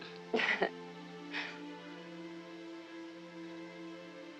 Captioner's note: laughing